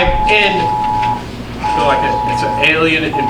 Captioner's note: siren blaring